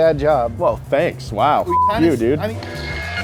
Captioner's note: beep